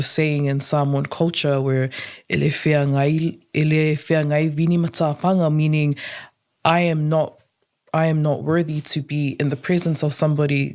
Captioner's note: speaks Samoan